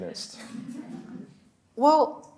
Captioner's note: audience laughs